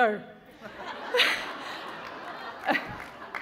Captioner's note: laughter